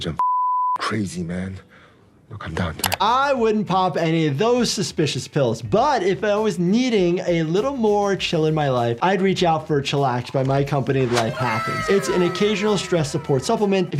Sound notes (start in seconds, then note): 0.2 beep; 2.4 Thanos speaks in Korean